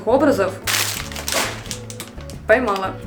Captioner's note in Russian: шорох